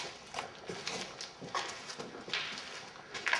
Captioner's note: footsteps